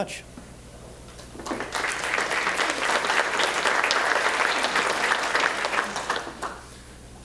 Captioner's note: applause